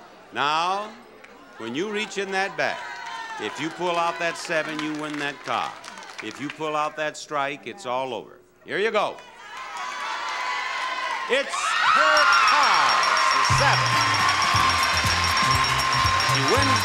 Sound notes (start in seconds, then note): 9.9 audience shouting; 11.9 bell dinging; 13.3 theme music